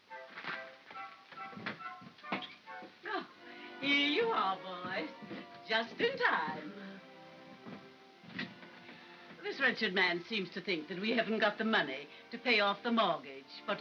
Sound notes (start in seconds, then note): 0.1 soft upbeat music; 8.3 door closes